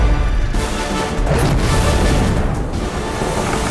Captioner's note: wings whooshing; fire whooshing; ominous music